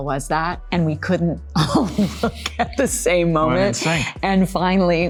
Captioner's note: laughing